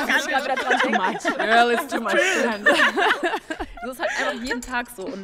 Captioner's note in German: Gelächter